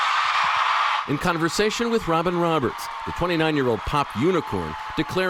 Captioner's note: cheers and applause